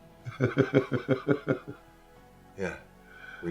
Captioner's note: dad laughing